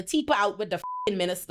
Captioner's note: beep